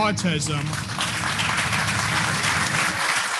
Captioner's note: applause